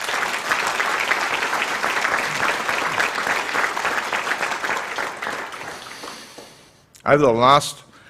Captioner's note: applause